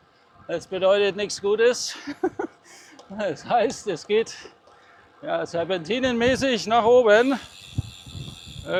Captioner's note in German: gelächter